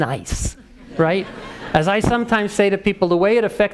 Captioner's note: laugh